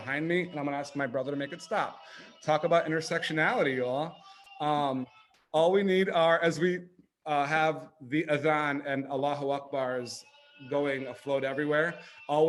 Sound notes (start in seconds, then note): 8.2 speaking foreign language